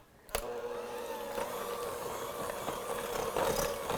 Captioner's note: mixer blending